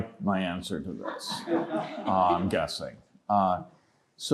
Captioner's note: laughter